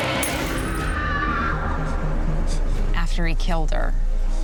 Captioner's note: screaming